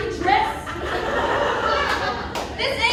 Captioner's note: laughter